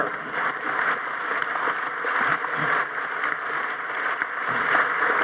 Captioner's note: audience applauding